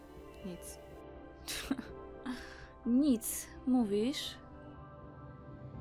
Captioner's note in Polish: Lekkie podśmiewanie, takie dość sarkastyczne